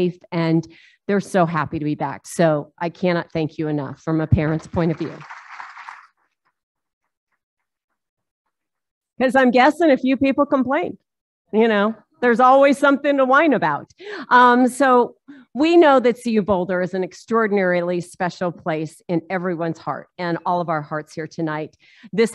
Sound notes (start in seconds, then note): 4.4 applauding